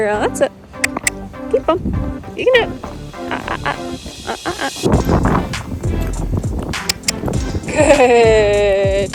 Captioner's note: clicking